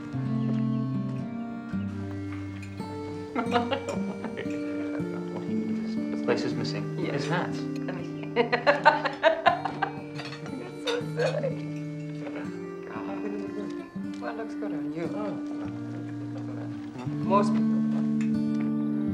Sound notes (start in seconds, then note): 2.0 cutlery tinkling; 3.3 Martha laughing; 7.9 laughing; 12.7 indistinct chatter